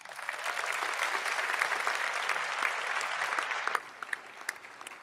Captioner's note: audience applauding